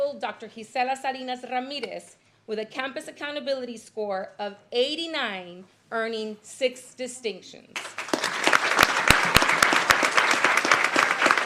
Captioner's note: applause